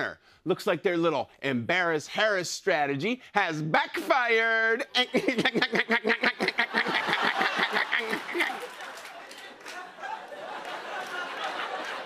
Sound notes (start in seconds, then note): 4.9 laughing